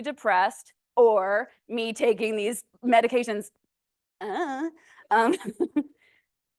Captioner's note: laughs